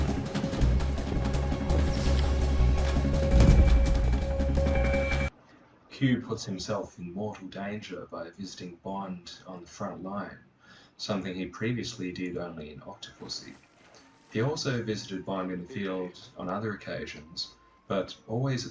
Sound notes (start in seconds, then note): 0.0 footsteps; 1.8 hydraulic piston; 3.3 thud